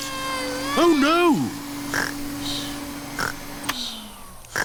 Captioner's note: snores; whirring stops